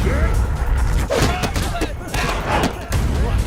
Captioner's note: grunting, fighting